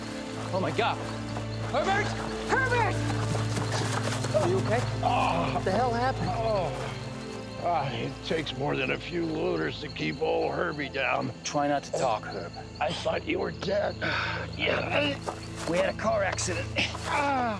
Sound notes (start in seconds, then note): 4.9 groans; 14.4 grunting